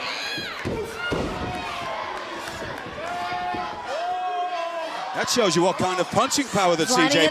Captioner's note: crowd chatter